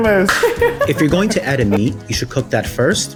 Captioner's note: laughs